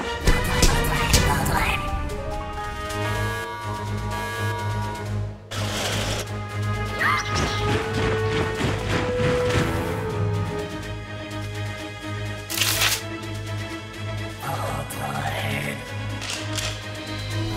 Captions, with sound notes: -Voltorb. [Alarm] [Pidgey and Zubat squawk] [Footsteps] [Guns loading] -Voltorb. [Gun trigger]